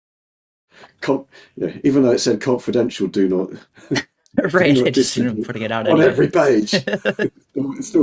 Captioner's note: both laughing